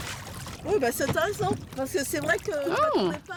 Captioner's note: speaking French